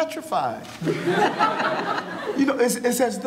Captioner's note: audience laughing